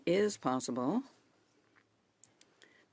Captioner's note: speaking in French